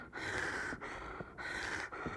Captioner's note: panting